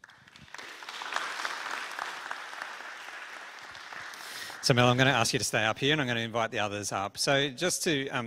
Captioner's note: applause